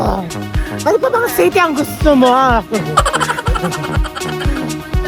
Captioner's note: laughing SFX